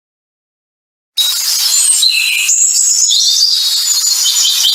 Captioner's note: birds chirping